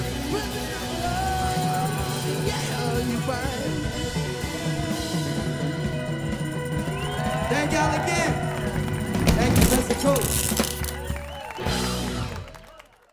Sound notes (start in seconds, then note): 11.6 applause